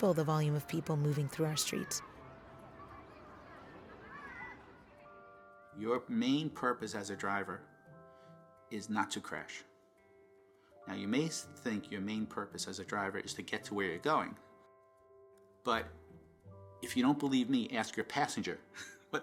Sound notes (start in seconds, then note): 3.0 gentle music; 3.0 people chattering